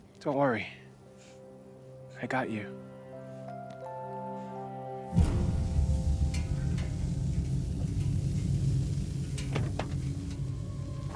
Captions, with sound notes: Don't worry. I got you. (gentle music) (car hissing) (intense music)